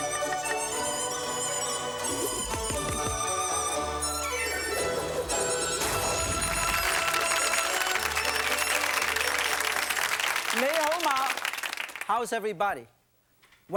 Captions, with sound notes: (audience applauding) (speaking foreign language) - How is everybody?